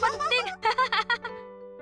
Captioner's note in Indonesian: tertawa